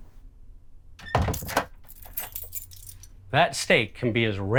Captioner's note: door thumps